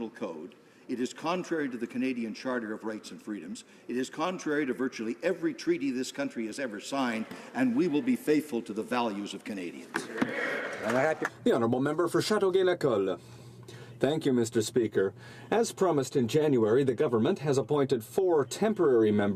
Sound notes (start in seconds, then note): 15.7 speaking French